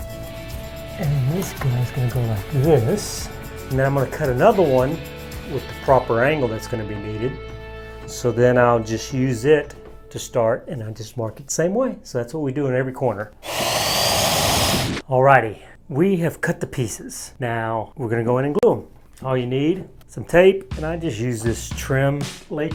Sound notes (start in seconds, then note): 13.4 saw whirs